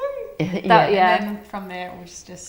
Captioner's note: laughing